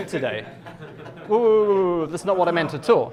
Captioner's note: class laughs